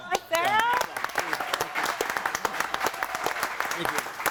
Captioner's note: audience applauds and cheers